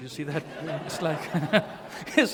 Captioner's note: laughter